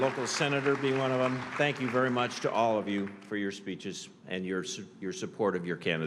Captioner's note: applause